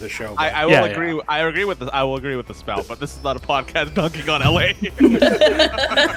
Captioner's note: laughs